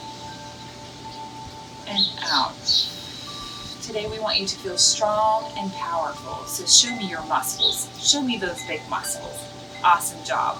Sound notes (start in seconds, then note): 1.8 bird chirps; 7.0 uplifting ambient music